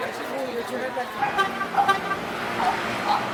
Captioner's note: car honks